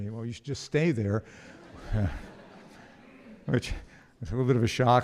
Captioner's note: audience laughs